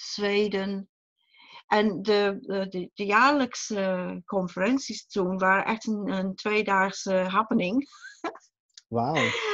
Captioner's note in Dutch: lacht